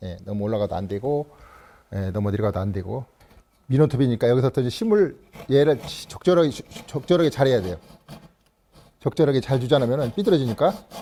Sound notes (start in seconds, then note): 5.2 sawing sound